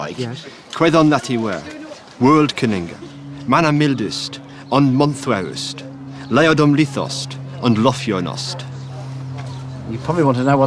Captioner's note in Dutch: Spreekt ANGLO-SAXON